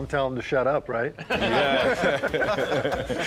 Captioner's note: group laughing